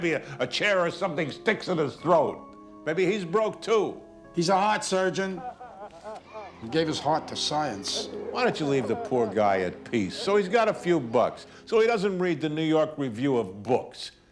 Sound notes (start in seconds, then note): 4.6 sobbing